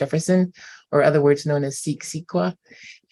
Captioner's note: non-english